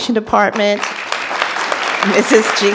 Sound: audience applauding

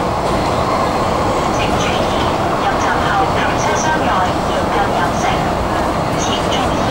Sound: Cantonese

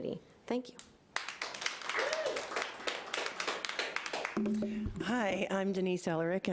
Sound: audience applauding

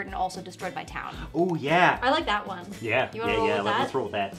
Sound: none

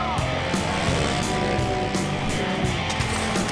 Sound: engines revving

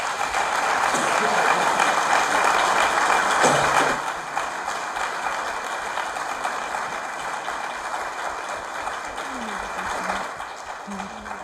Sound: applause

